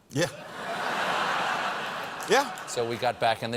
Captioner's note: laughter